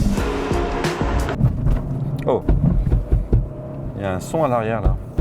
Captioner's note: noise in the boot